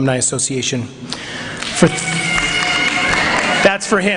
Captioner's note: cheering